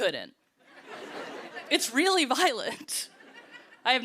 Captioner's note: laughter